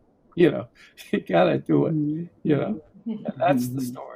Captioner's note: chuckles